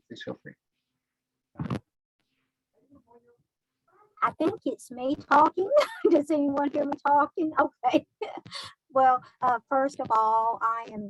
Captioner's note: chuckling